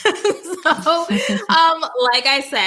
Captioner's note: laughing